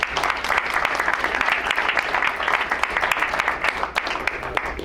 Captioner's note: crowd applauds